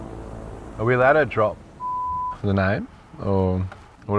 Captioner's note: beeps